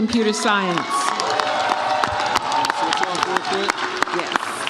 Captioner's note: audience cheers